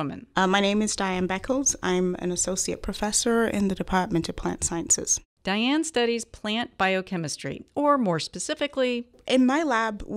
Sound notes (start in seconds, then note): none